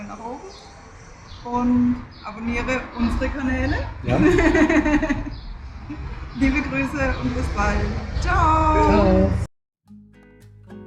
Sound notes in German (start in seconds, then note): 4.0 gelächter